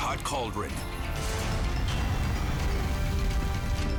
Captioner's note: fire roaring